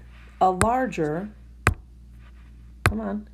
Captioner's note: tapping sound